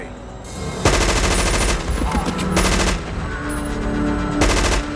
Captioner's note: machine gun firing